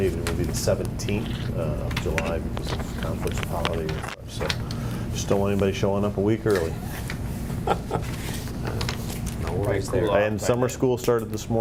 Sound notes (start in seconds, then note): 7.5 laughs